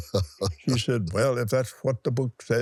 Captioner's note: laughs